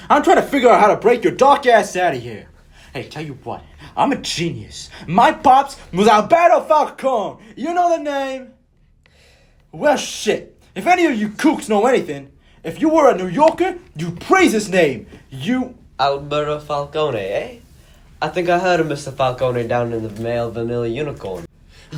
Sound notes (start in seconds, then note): 8.6 silence